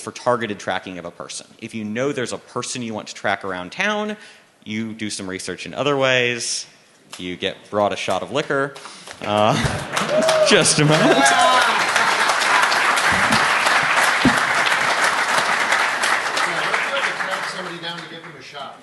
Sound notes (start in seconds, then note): 8.3 applause; 10.8 laughter